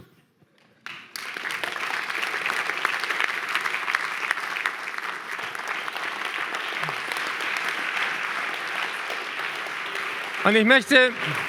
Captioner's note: applause